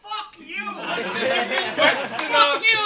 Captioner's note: laughing